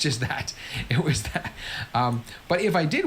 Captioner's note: laughs